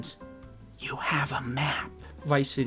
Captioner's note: whispered